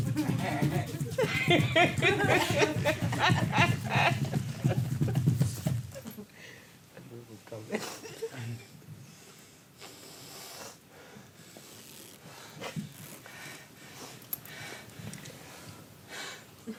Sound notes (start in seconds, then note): 0.0 dancer's feet pitter-patters; 3.7 audience laughs